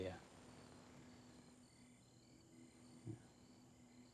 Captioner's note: crickets chirping